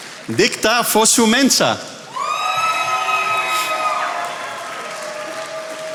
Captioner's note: attendees applauding